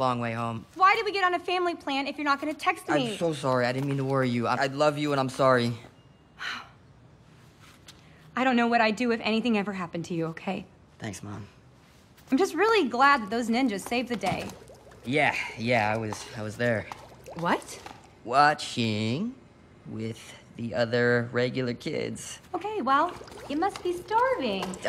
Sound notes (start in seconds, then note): 6.4 sighs